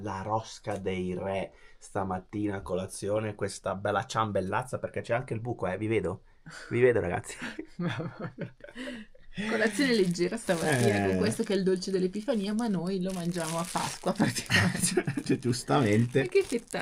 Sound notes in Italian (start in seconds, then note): 7.2 risate